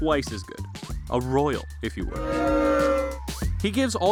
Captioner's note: booing